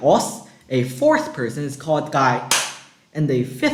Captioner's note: clap